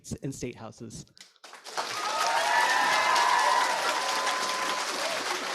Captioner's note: audience applauding